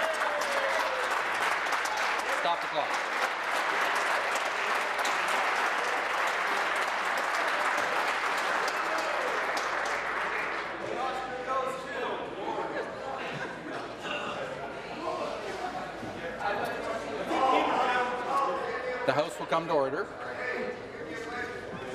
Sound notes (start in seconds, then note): 4.5 applause